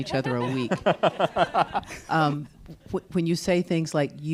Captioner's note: panelists laughing